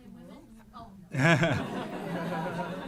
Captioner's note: laughter